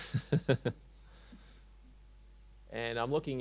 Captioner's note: chuckles